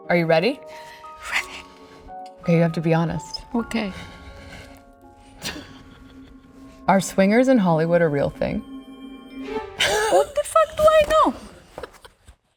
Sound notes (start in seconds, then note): 5.3 laughing; 9.4 ominous music; 9.8 Olivia laughing